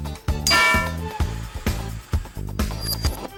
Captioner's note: clank